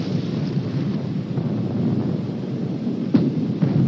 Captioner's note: explosions in distance